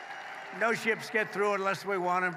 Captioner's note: applause